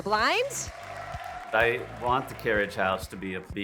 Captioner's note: all cheer and clap